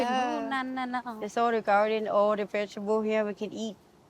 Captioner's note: speaking in foreign language